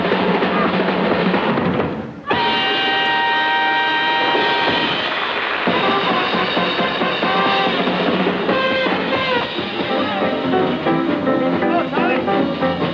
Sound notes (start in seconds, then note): 2.3 audience applauding; 6.6 upbeat swing music